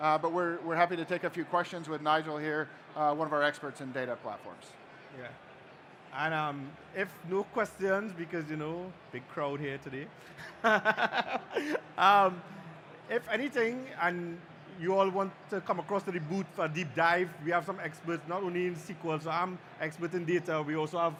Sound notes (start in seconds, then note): 10.3 laughter